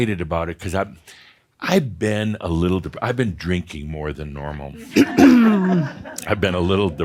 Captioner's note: some chuckles